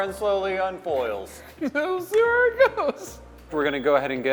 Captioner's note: laughs